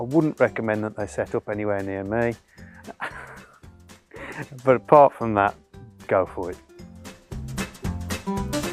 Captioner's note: laughs